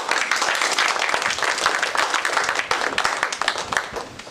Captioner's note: applause